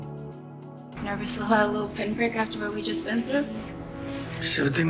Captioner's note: voiceover